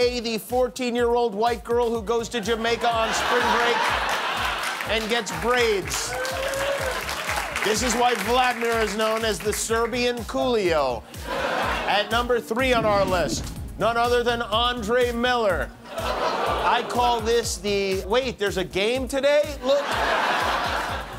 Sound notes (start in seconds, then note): 6.1 clapping; 15.9 laughter